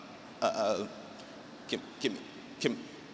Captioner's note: Brandon stutters